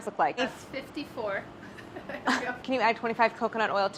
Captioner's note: laughs